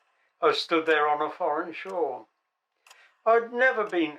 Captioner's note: clock ticking